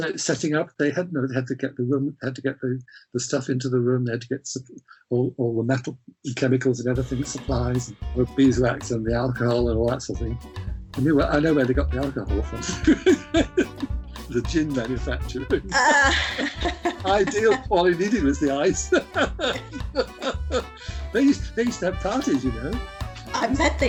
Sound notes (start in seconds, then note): 8.1 jazz swing music; 12.6 laughs; 15.7 laughs